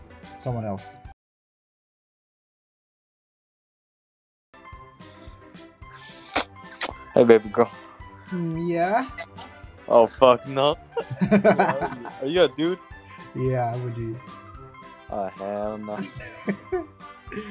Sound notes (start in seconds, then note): 10.9 laughs